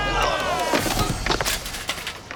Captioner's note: biker screams; bike clatters; biker groans; biker thuds